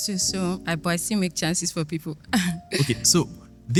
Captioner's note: laughs